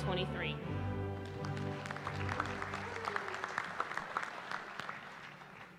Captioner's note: applause